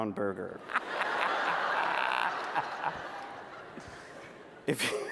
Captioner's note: laughter